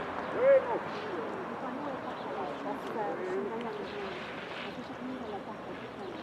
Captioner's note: tourists chattering; birds chirping